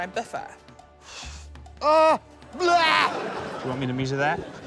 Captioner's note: sighs; laughter